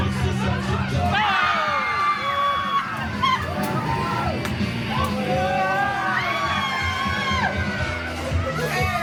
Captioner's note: guests screaming and laughing